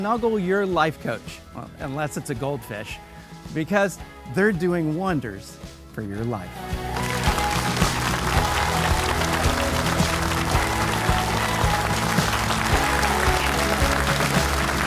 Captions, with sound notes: So go ahead, snuggle your life coach unless it's a goldfish, because they're doing wonders for your life. (upbeat music) (audience clapping)